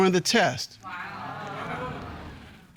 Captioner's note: audience exclaim